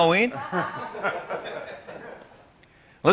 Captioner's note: laughter